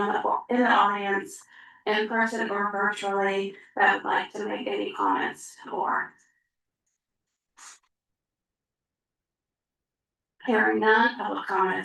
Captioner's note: pause